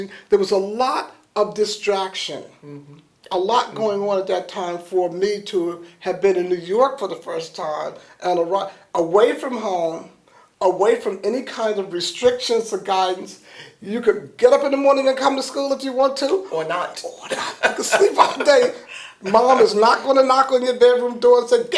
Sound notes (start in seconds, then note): 17.2 laughter